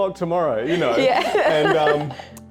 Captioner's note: laughs